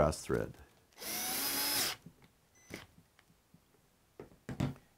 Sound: drill whirring

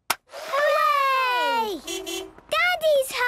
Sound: distant beeping

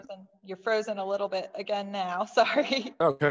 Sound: chuckles

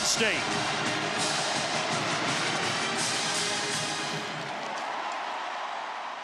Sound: upbeat music; crowd cheers

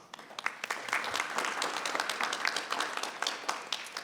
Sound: people applauding

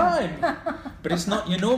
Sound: laughs

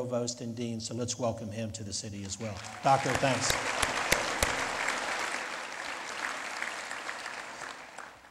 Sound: lead Applause

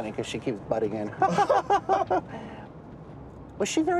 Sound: laughter

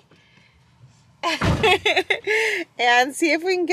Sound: laughs

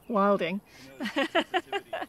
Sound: laughs

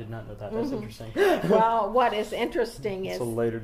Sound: laughs loudly

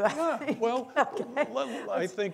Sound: laughing

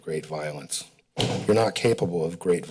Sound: banging sound in the background

